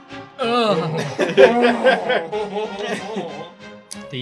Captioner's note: sensual Noises